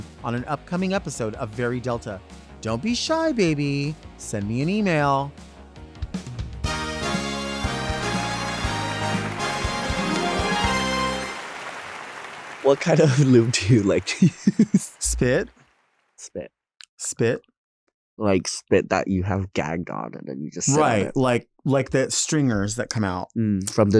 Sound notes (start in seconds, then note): 6.9 lively music; 7.8 audience applauding; 13.0 chuckling